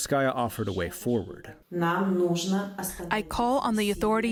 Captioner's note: through translator